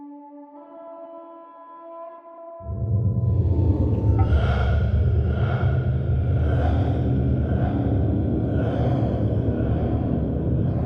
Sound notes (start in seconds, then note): 0.3 somber music; 3.2 something breathing heavily